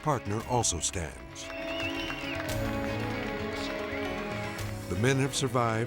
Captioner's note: crowd cheering